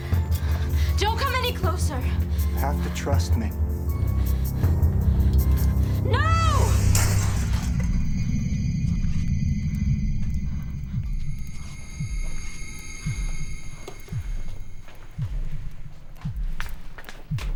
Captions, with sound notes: - Don't come any closer. - You have to trust me. - No! (glass shattering) (scary music)